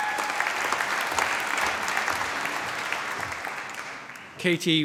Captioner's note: applause